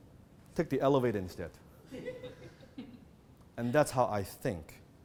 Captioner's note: audience giggles